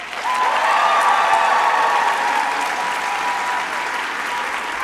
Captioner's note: crowd applauding